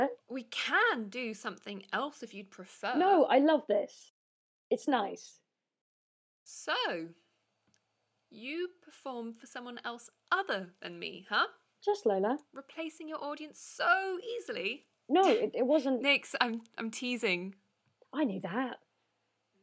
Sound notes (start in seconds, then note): 15.2 laughs